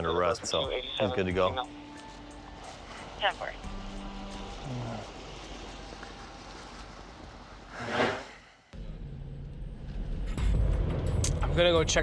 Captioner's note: police radio chatter